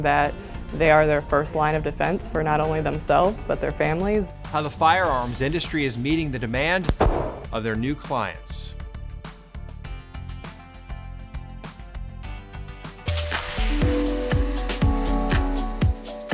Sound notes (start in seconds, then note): 6.8 gun firing; 8.9 compelling music; 12.8 gentle upbeat music